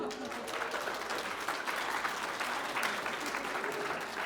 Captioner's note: applause